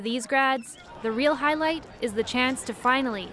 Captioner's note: cheers and applause